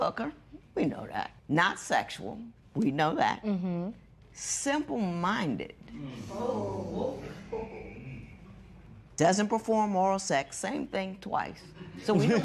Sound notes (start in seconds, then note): 6.3 spectators murmur